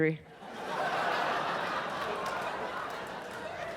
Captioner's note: audience laughs